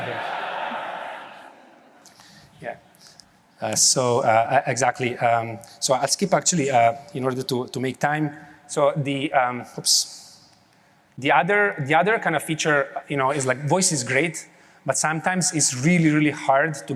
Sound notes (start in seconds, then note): 0.0 laughter